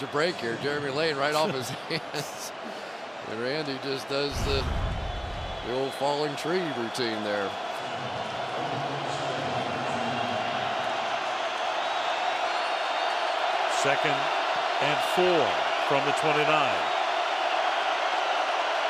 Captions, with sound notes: finally catch a break here. Jeremy Lane right off his hands. And Randy just does the old falling tree routine there. [pa announcement] [cheering] Second and 4 from the 29.